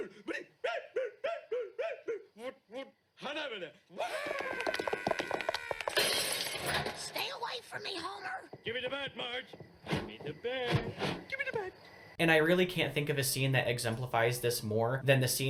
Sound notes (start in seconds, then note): 3.9 screaming